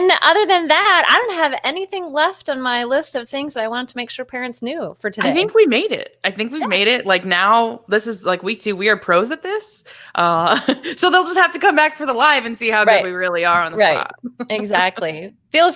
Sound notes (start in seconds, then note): 10.4 laughs